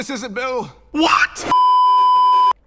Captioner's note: voicecrack